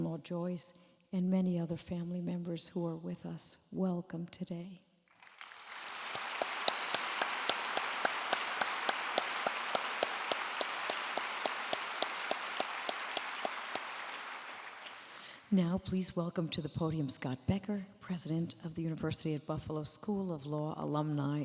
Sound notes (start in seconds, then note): 5.1 applause